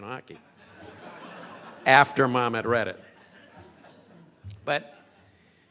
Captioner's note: crowd laughing